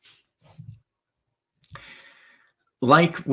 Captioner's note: arm shuffling